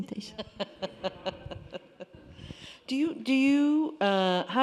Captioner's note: laughing